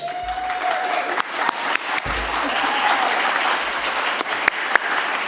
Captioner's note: audience cheers and applauds